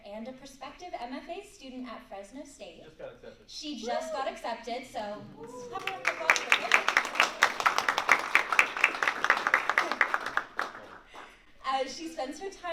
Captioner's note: applause